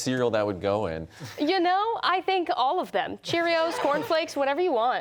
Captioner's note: laughter